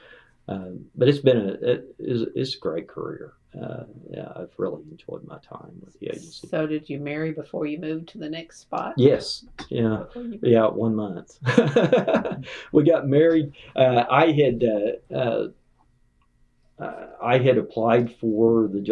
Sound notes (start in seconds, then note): 11.4 laughter